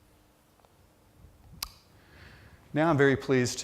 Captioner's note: pause